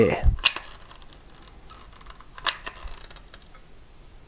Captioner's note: creaking